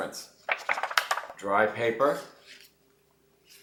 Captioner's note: paper shaking